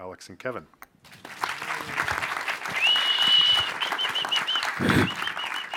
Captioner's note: audience cheering